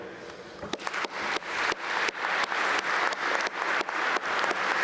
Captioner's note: applause